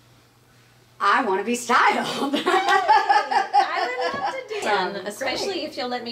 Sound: laughing

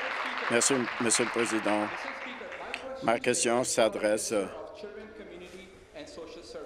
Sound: applause

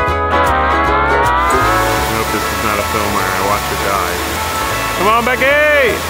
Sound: hawaiian music; waterfall crashing

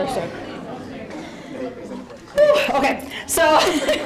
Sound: audience chatter

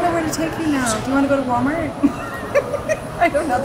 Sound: laughs

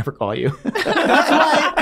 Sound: all laughing

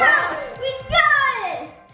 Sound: laughing

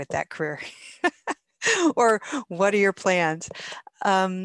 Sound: laughs

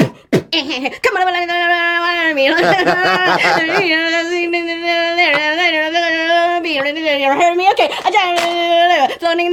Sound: beatboxes; imitates speed rap

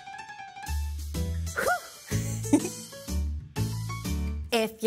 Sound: laughs

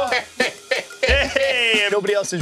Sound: laughs

